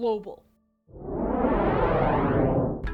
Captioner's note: whoosh